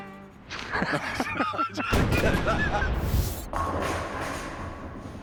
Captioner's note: laughter